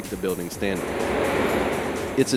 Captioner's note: sounds of excavator machinery